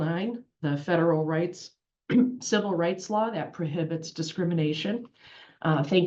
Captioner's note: cough